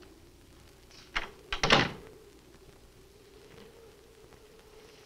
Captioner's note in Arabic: يغلق الباب